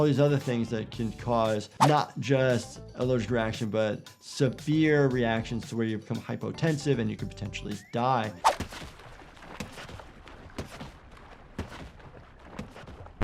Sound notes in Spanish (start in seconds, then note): 7.8 salpicaduras de agua